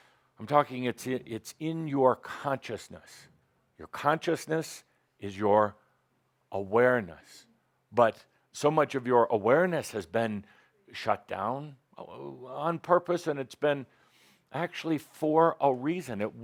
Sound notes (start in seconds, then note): none